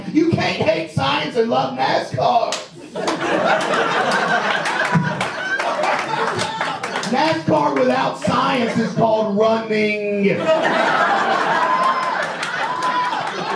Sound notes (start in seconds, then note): 2.6 audience laughs and claps; 10.3 audience laughs